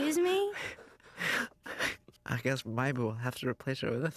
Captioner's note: laughs